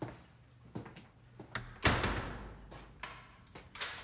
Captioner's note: door slams; lock clicks